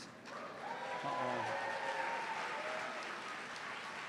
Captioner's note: cheers and applause